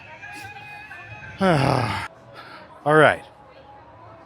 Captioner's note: groan